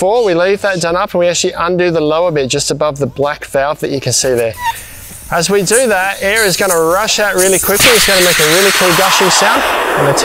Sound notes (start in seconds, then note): 4.2 air squeaking; 9.3 air gushing